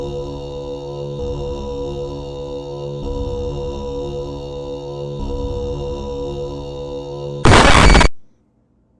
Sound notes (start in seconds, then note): 7.4 static noise